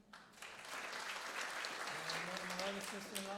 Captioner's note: applause